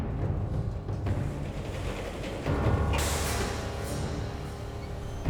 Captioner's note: elevator door rattles